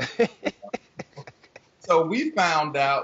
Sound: laughing

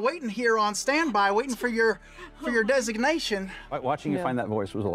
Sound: laughing

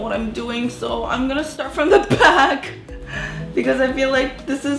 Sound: laughs

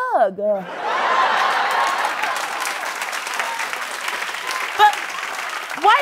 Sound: applause

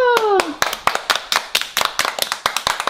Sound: applause

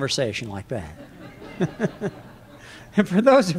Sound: laughter

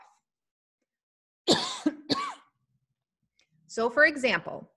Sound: coughs

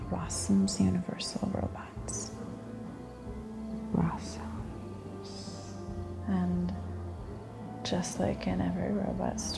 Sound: none

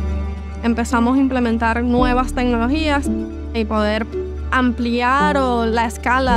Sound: speaking in foreign language

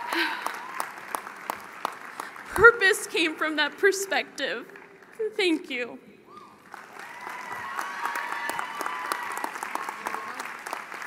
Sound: cheerg and Applause; cheering and Applause

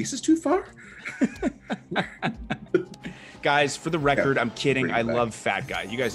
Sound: laugh

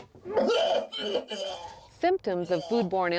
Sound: vomiting sounds

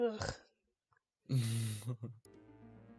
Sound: laughs

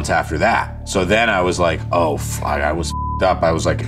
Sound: beeps

